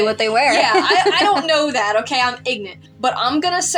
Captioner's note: laugh